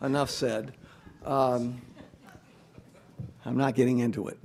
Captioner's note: audience laughs